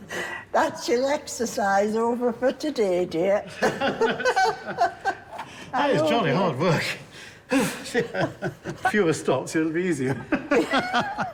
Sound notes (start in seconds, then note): 3.6 both laughing; 7.6 laughs; 7.8 huffs